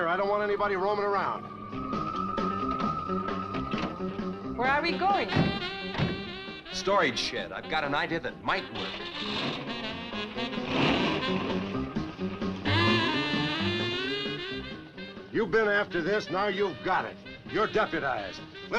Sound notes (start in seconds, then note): 2.0 suspenseful music; 8.8 engine revving